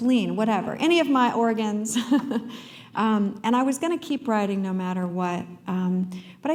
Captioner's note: chuckle